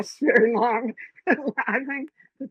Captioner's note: laughs